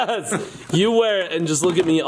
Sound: laughing

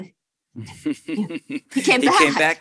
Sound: chuckles

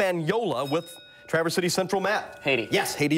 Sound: bell rings

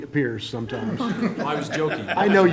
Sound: laughter

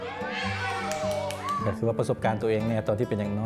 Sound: clapping

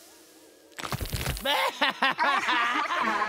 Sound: laughing

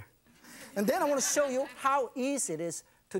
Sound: audience laughs

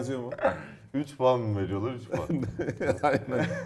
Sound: laughter

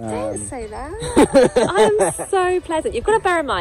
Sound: laughs

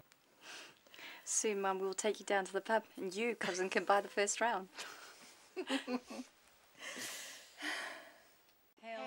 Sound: laughter

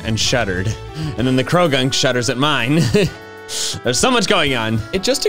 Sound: laughs

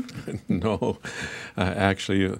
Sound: laughing

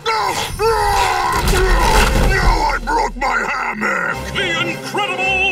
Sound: roaring

